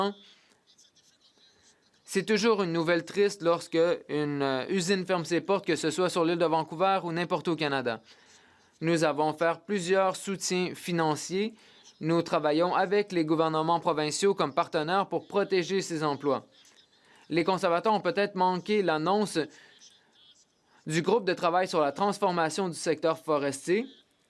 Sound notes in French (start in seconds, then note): 5.6 voix de l'interprète